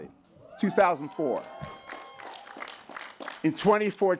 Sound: cheering

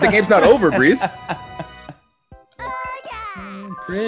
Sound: laugh

